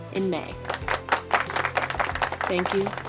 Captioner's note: applause